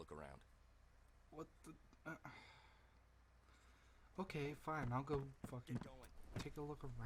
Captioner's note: sigh